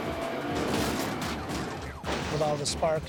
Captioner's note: vehicles thudding